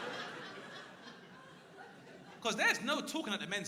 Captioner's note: crowd laughing